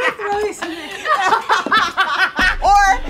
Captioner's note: laughing